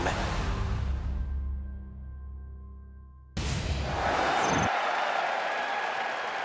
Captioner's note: crowd cheering